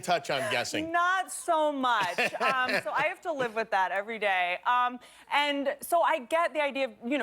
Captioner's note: laughter